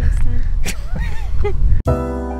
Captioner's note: chuckles; slow jazzy music